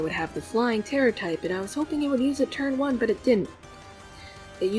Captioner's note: earthquake